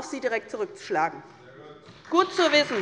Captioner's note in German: Beifall bei der SPD